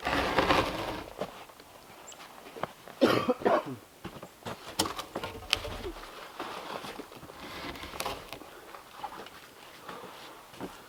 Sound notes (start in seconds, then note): 3.0 coughs; 8.0 log scraping